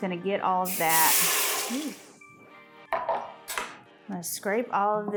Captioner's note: water sizzling